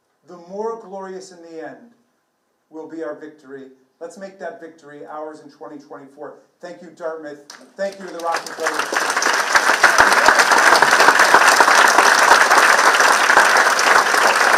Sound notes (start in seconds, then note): 9.7 participants clapping